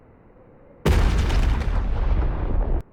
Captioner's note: boom